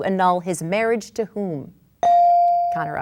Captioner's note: bell dings